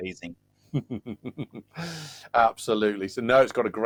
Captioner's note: laughing